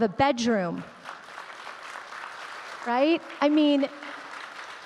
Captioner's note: audience clapping